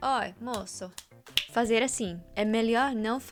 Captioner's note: snapping